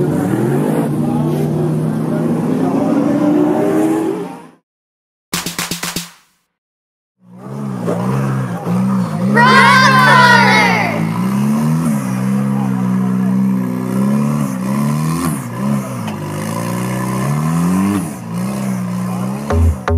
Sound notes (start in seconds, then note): 0.0 racing truck sounds; 5.4 clapping; 8.1 truck sounds; 11.9 truck sounds